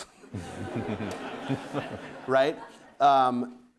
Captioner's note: audience laughing